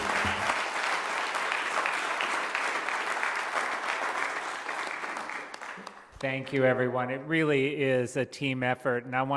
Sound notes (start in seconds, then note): 0.0 applause